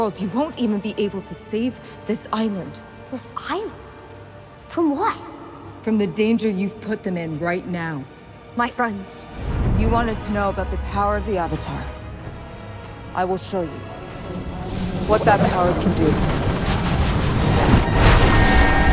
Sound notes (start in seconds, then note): 14.3 distorted echoing; 18.0 mystical whir